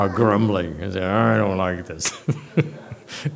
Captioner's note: laughs